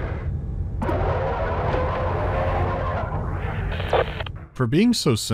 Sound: indignant bellowing of rusted servos

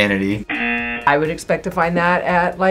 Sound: buzzer rings

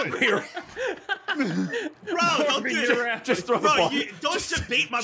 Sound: laughs

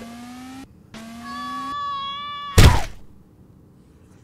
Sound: screaming - SPLAT

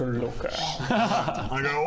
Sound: demonic purring

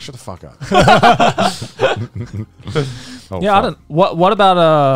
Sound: everyone laughs

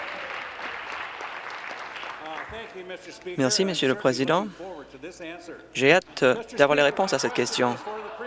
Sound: applause

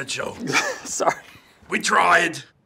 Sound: chuckles

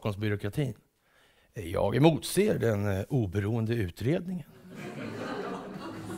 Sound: laughter

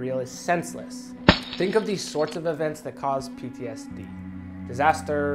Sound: glass shattering

